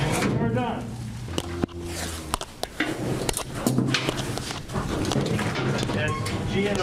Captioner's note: cattle sounds